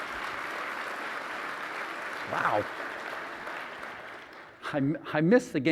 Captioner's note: applause